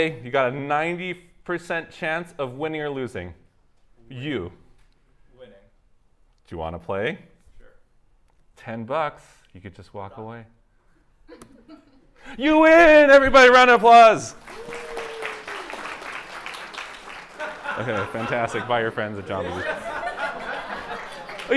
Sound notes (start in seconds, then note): 14.3 applause; 19.8 laughter